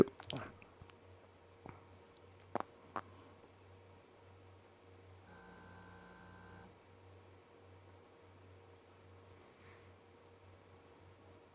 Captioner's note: silence